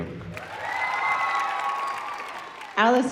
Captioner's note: audience cheering